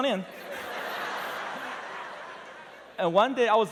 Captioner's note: laughter